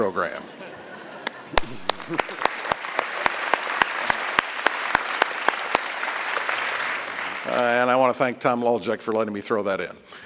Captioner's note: applause